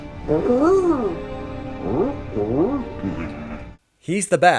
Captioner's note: coos gently